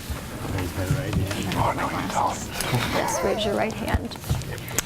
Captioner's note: whispering